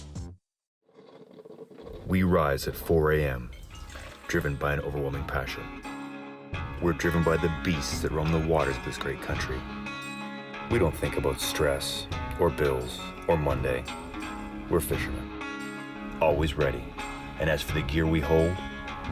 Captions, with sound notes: ( coffee brewing ) >> WE RISE AT 4:00 A.M. DRIVEN BY AN OVERWHELMING PASSION. WE'RE DRIVEN BY THE BEASTS THAT ROAM THE WATERS OF THIS GREAT COUNTRY. WE DON'T THINK ABOUT STRESS OR BILLS OR MONDAY. WE'RE FISHERMEN, ALWAYS READY, AND AS FOR THE GEAR WE HOLD,